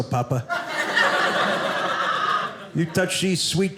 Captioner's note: audience laughing